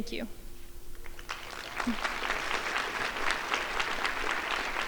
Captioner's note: crowd applauding